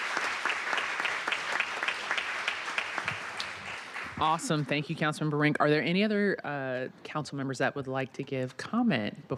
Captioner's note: applause